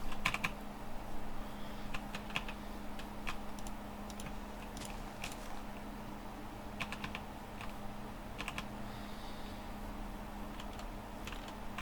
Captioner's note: typing